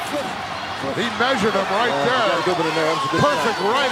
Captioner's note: Hillbilly mumbling